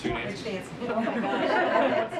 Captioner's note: laughs